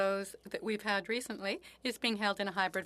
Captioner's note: speaking French